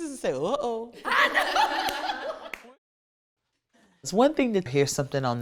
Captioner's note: everyone laughing